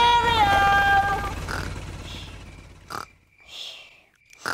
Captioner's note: baby alexander snoring